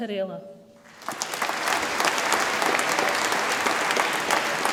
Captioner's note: audience applauds